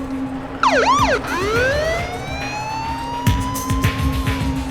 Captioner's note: siren blares